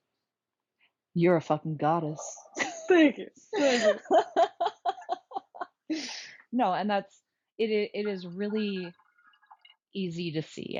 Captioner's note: laughter